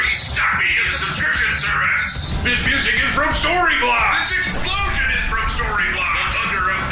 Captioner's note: explosion